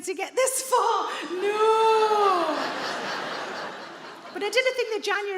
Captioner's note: audience laughing